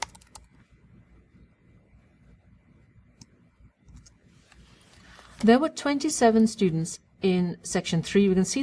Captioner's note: pause